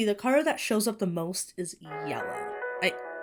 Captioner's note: phone ringtone plays